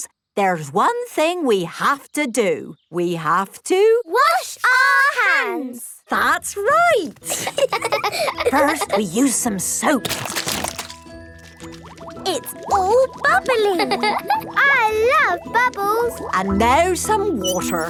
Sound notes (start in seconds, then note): 7.2 laughing; 10.5 squirt! squirt!